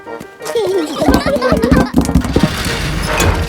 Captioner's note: children giggling